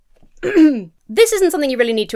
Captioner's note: clears throat